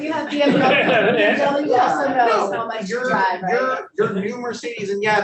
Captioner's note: panelists laughing